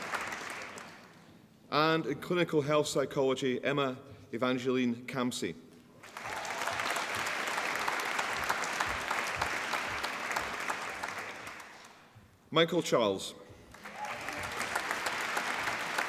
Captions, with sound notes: And in Clinical Health Psychology Emma Evangeline Camsey (APPLAUSE) Michael Charles (APPLAUSE)